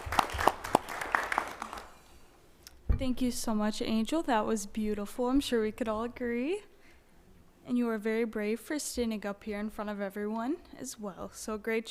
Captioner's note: applause